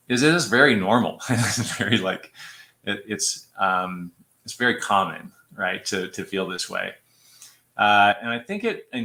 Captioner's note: laughter